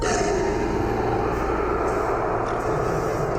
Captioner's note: roaring